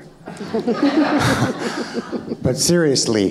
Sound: audience laughing

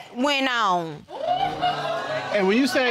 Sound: audience groaning

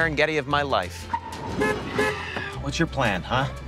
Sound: horn honking

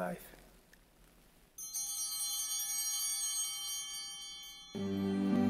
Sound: chimes ringing

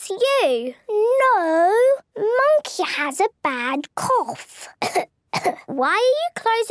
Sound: pretending to cough

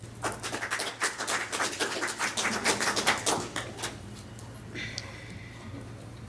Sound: applause

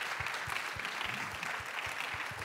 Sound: applause

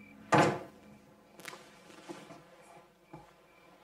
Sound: door Closes

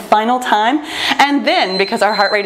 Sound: timer beeps

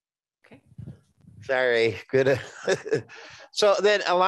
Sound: laughing

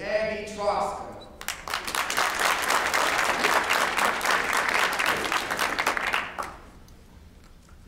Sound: applause

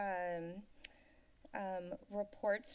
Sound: clicks Tongue

